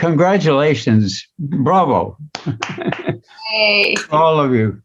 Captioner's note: chuckles; applauds